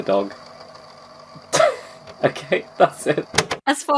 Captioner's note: laughs